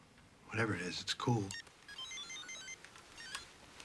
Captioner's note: beeping